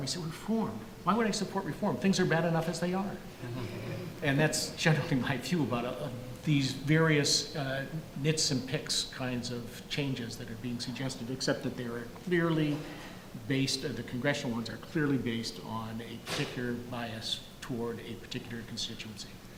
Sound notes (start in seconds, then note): 3.4 audience laughing